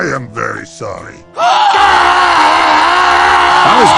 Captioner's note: screams violently; screams in fear